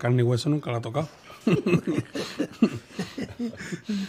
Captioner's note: both laugh